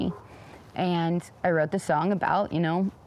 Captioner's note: dog barks